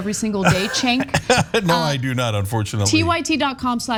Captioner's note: laugh